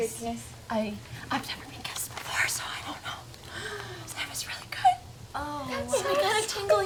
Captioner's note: whispers